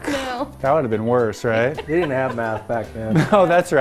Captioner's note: laughs